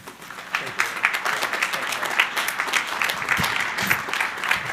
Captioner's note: crowd applauding